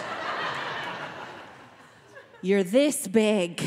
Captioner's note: audience laughing